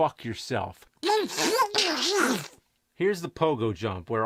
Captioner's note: with Donald's voice